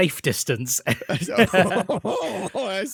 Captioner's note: laughter